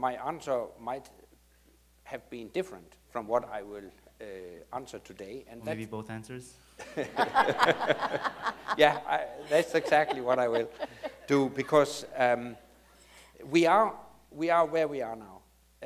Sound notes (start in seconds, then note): 6.8 laughs